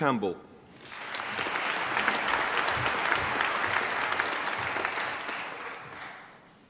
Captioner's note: applause